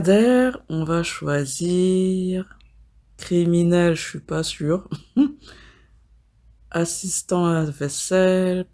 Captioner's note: laughs